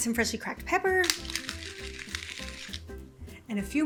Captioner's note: pepper cracking